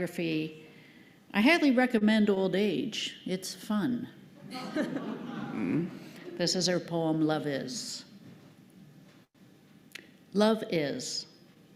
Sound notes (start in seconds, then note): 4.4 laughter